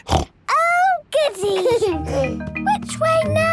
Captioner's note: snorts; George giggles